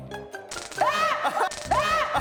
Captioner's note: arrgh; cracking up